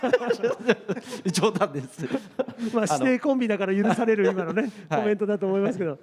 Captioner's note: laughs; laughs